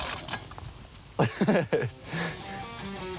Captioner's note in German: Lachen